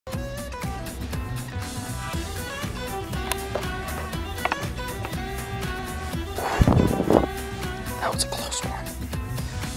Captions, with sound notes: (upbeat music) (exhales) - That was a close one.